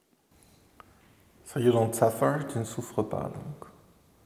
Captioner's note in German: spricht auf englisch